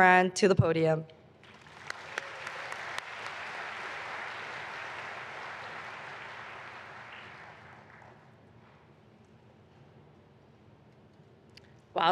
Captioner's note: applause